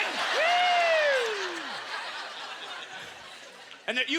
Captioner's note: audience laughter